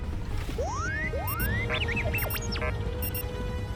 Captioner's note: R7 anxious beeping